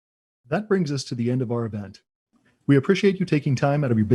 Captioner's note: voiceover